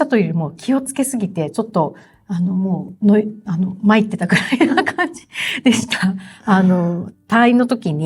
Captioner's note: laughs